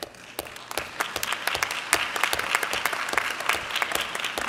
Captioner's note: clapping